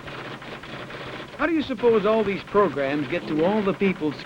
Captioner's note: typewriter clicks and clacks